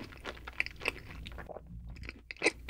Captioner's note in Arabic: بلع